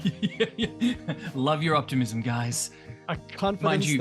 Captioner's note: laughs